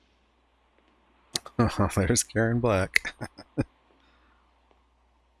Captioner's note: chuckling